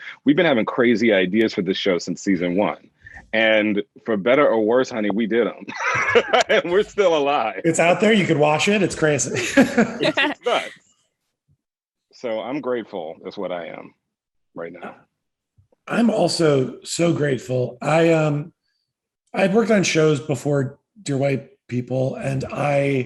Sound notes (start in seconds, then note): 5.5 laugh; 9.0 all laughing